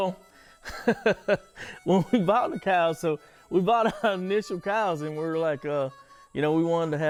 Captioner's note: laughing